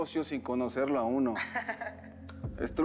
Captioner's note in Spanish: risas